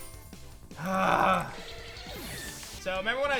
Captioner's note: grunts